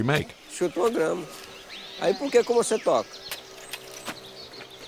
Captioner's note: Portuguese spoken audio